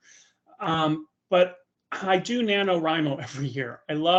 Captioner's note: chuckling